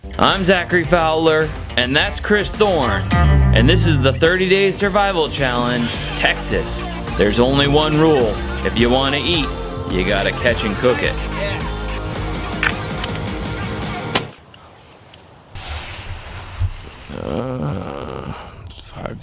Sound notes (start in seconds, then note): 14.3 gun firing; 17.0 moaning